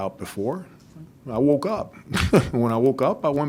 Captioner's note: chuckles